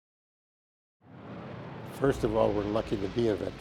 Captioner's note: plane engines overhead